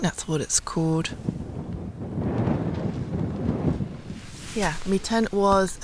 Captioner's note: wind